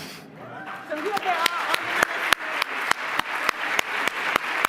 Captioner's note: applause